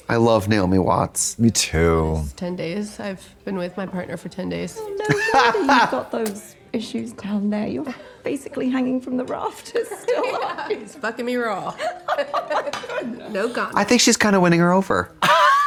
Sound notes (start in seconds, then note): 4.8 Trixie laughs